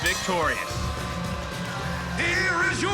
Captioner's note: bell rings